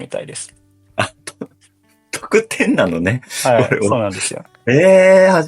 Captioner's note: laughs